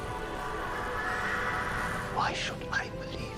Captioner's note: eldritch female laughter